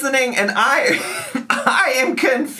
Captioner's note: laughs